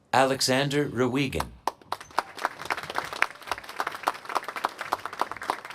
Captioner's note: applause